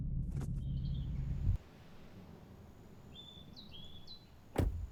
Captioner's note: birds chirping